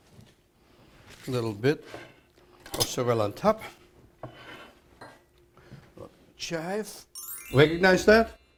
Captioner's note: tinkling sound